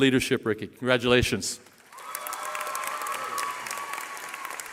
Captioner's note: cheering